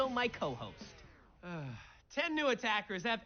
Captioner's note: sighs